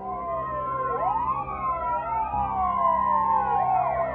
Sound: sirens blare

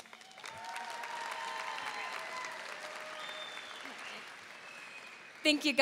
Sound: audience cheering and applauding

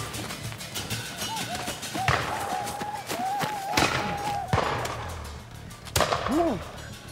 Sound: tense music; whooping sounds, gunshots nearby

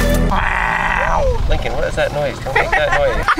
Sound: grunting at monkey

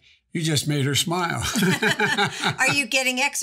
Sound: Bidens laugh

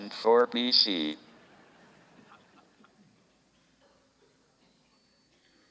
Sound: audience laughs

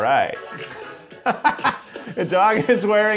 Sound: laughter

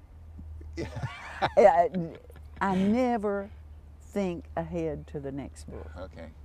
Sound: laughter

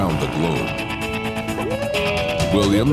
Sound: whoops and hollars

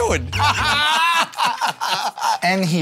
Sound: Joe and Q laugh

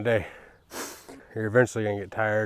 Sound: sniffs

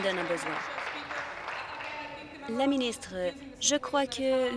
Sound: applause

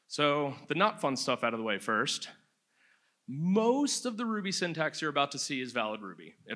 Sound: none

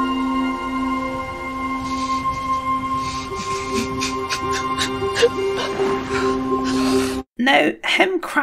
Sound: crying

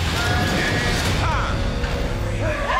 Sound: urgent music; metal squealing

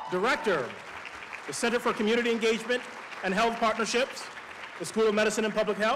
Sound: applause

